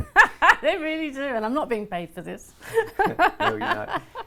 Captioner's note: laughs